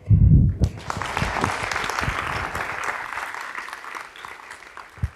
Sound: audience clapping

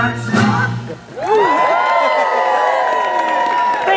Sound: patriotic themed music; audience cheers

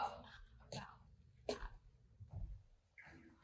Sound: footsteps

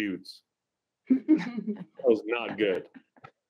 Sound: laughter

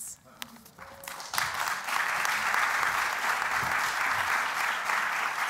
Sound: applause

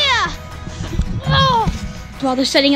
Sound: grunts

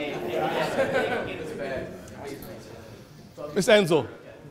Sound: background chatter

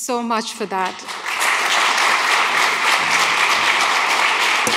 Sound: audience applauds

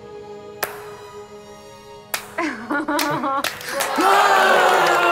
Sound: audience applauding

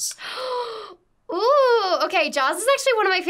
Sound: gasps

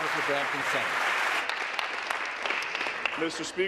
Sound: applause

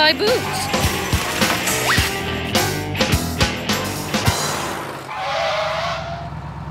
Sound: crashing

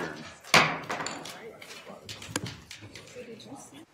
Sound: gavel bangs

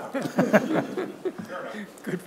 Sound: participants laugh

